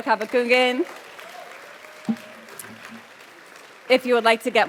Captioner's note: audience applauds